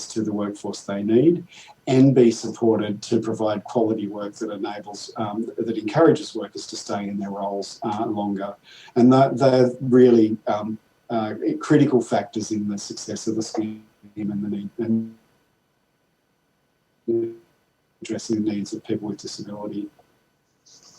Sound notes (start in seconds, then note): 14.5 audio distorts